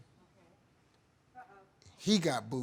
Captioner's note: audience murmuring